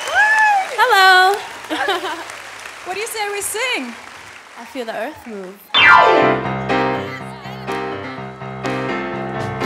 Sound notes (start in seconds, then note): 1.7 laughs